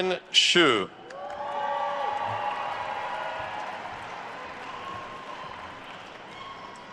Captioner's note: attendees cheering and applauding